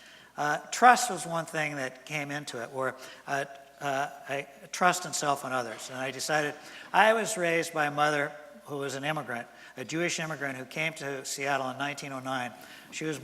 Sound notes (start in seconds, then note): none